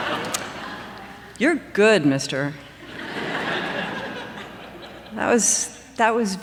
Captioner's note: laughter; laughter